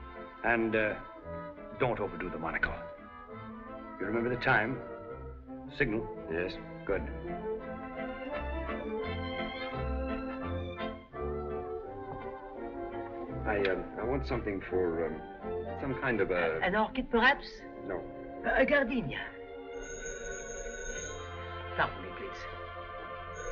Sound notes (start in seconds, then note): 18.0 phone Ringing